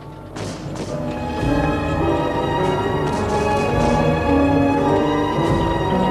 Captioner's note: solemn music; guns bang